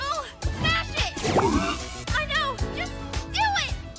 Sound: grunts

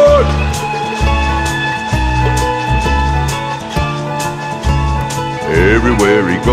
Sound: locomotive whistle blow

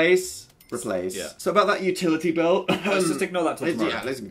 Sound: fake coughs; mumbles

